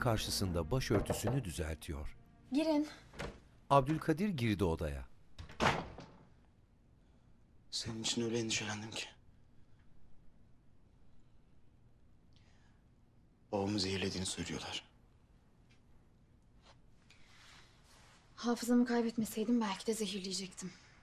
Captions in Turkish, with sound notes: (Kapı vurma sesi) Girin. (Kapı açılma sesi) (Kapı kapanma sesi) Senin için öyle endişelendim ki. Babamı zehirlediğini söylüyorlar. Hafızamı kaybetmeseydim belki de zehirleyecektim.